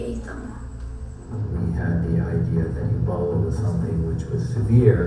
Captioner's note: voiceover